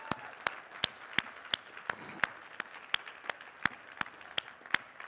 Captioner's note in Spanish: aplausos